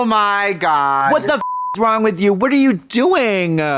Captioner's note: beep